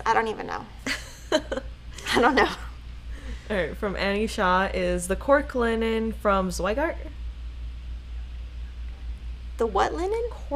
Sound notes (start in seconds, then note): 0.8 laughing